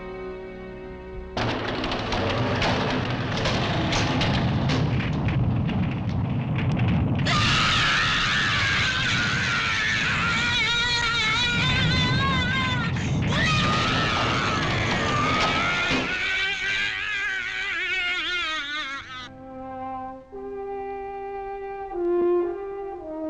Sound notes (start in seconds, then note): 7.3 Emiko screaming; 19.3 gentle instrumental music